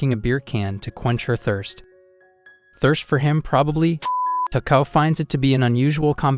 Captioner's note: beep